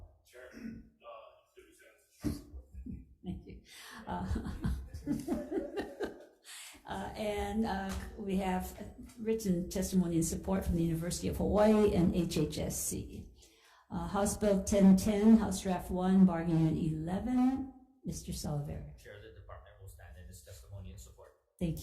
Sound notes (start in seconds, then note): 4.0 laughter